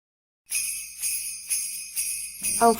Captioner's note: sleigh bells